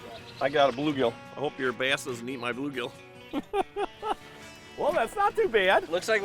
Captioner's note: laughing